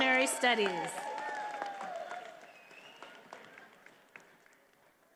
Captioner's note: attendees applauding